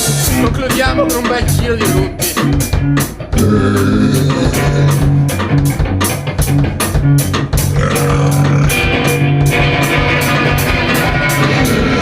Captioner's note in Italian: burp